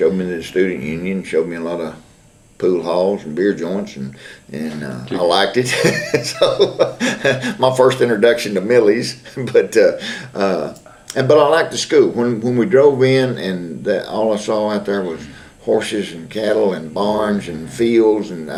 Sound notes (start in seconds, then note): 5.6 laughs